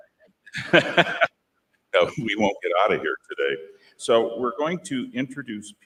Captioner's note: laughs